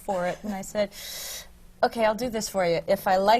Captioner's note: sighs